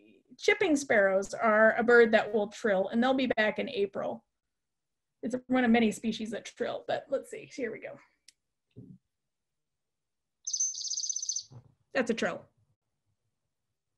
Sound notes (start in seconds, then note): 10.4 trilling call